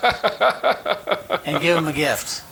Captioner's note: chuckling